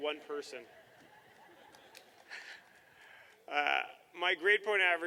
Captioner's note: laughter